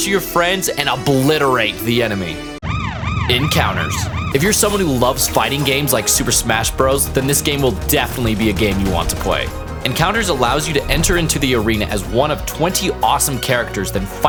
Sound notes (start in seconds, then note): 2.6 siren sound